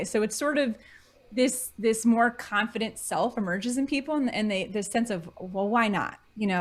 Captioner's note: none